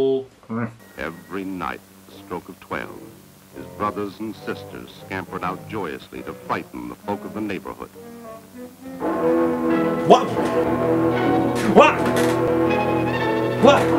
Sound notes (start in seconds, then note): 8.9 bell gongs